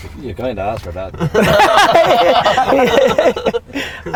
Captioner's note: group laughter